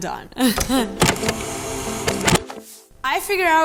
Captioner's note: chuckles